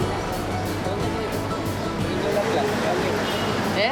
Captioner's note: speaking In Foreign Language